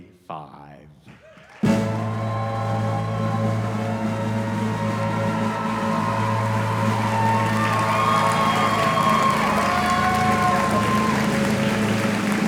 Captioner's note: audience applause